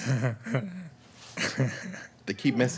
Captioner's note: chuckling